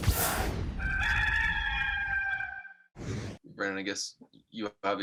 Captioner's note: rooster crows